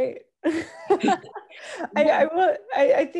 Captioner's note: laughs